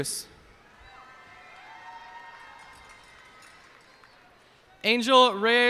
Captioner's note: cheers and applause